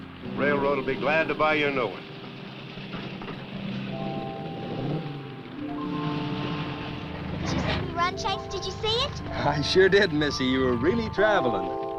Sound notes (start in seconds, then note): 4.1 engines rumbling; 4.1 gentle music